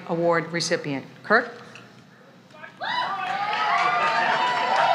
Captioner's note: applause